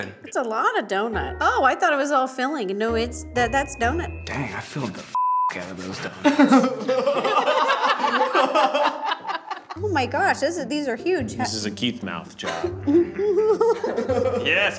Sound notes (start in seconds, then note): 5.2 beeps; 5.9 group laughs; 12.4 group laughs